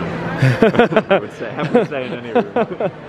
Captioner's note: laughing